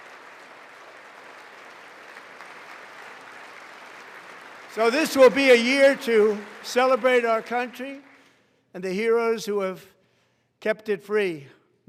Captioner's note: applause